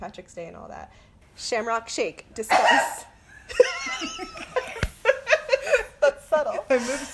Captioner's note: sneeze